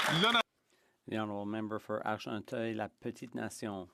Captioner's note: some Applause